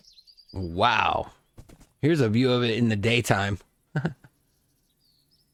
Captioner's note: giggle